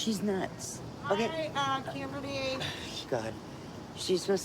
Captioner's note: scoffs